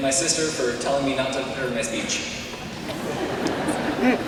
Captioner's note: laughter